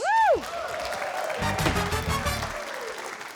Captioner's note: cheering, applause